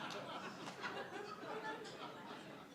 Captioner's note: laughter